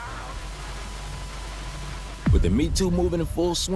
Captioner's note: TV static hisses